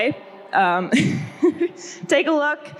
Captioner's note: laughs